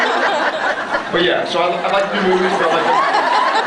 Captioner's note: laughs